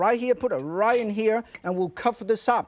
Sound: pot clinks

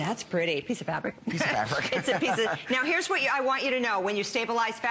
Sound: laughter

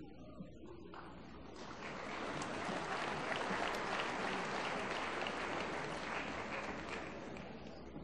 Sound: applause

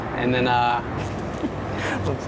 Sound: laughs

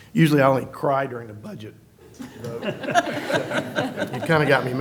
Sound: laughter

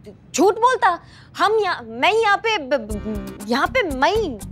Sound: stuttering

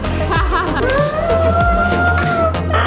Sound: laughing

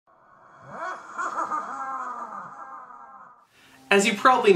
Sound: evil laughing

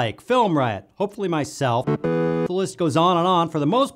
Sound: game win sound

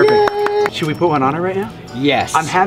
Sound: hands clapping

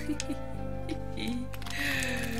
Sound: giggle

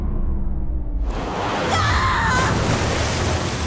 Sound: screaming

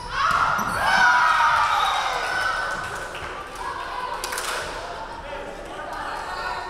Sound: crowd cheering; referee whistling

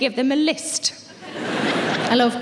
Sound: audience laughing

